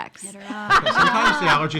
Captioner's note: laughing